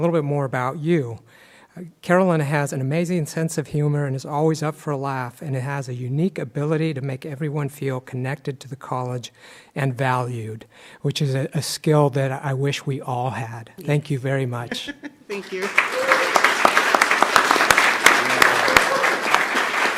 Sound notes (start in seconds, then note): 15.3 clapping